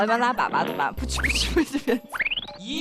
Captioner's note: chuckles